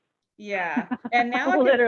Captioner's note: laughing